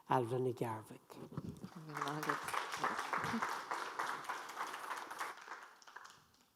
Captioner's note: audience applauds